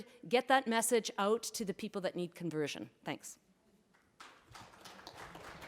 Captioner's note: applause